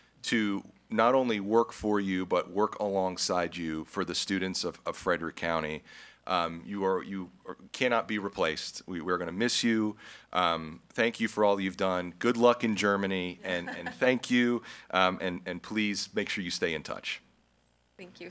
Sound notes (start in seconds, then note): 13.4 laughs